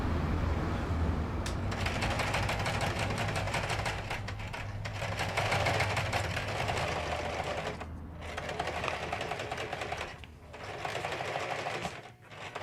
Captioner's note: sewing machine rattling